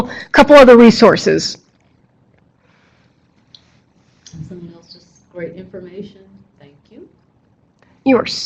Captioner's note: silence